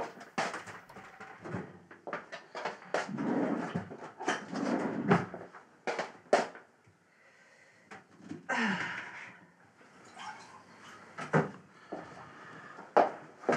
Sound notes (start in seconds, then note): 8.4 sighs